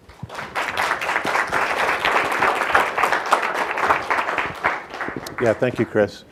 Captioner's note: audience clapping